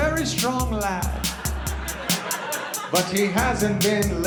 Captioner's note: laughter